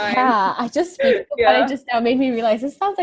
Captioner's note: chuckles